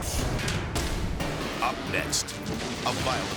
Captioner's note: graphic thudding; pilings snapping